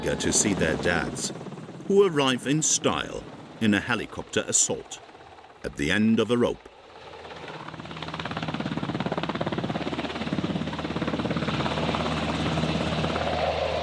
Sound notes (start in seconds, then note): 7.5 helicopter whirring continues